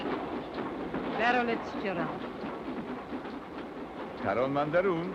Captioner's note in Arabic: البارونة تتحدث لغة أجنبية; هارتز يتحدث لغة أجنبية